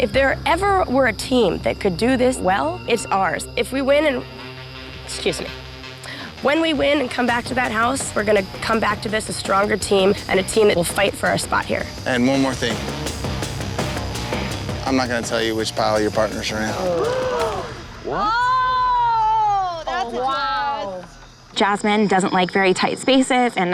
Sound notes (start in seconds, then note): 13.7 dramatic music; 17.4 all gasping